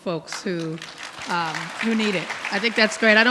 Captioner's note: audience clapping